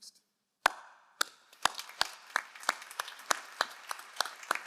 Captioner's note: all applauding